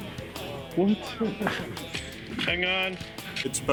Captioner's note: laughter